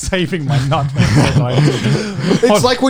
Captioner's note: laughs